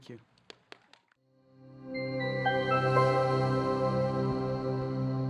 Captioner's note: audience clapping